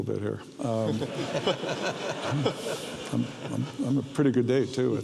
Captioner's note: audience laughs